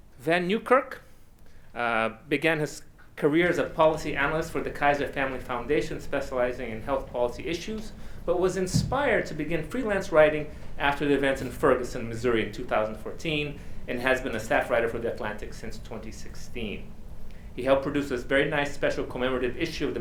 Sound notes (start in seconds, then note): none